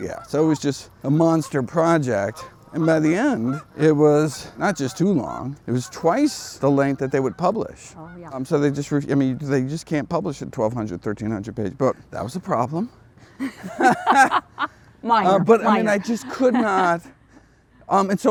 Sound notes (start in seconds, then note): 13.4 both laughing